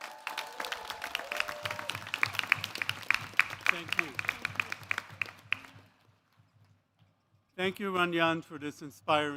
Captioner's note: cheers